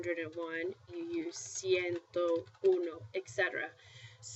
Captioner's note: spanish